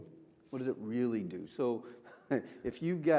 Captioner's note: chuckles